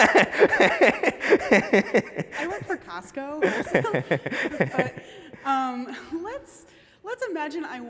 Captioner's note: laughter